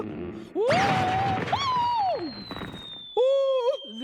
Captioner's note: yelling